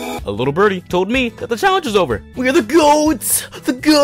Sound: none

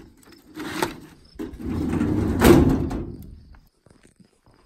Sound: drawer slams

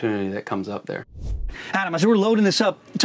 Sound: air swooshing

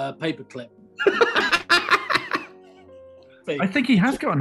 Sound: laughing

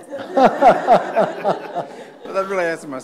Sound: audience laughs

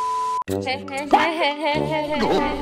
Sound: laughter

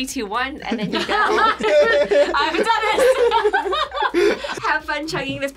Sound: laughs; group laughs

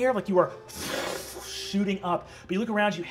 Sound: imitates air whooshing

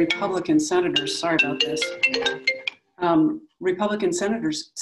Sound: phone ringing

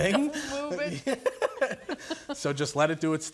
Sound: laughing

